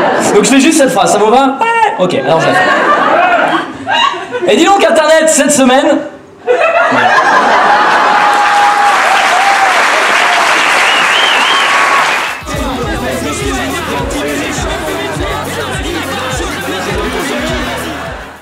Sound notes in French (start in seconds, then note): 0.1 Rires; 2.4 Rires; 6.4 Rires; 7.5 Acclamation + Applaudissements